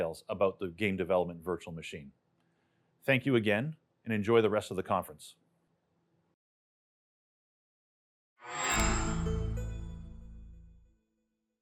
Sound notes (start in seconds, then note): 8.5 chime